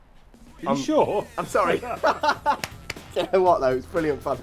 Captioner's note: laughs